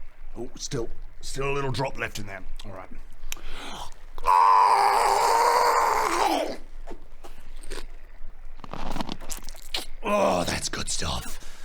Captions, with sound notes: Oop still a little drop left in there, alright AAAARRGGGGHGHGGHHHAHHANOM! *surprisingly harmless crunching noises* Ohh that's good stuff